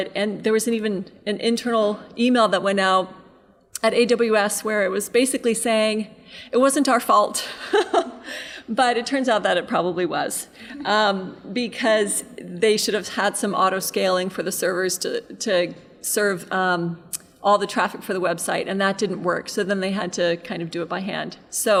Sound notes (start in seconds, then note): 7.8 laughing